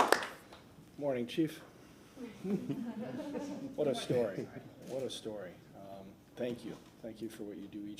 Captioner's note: applause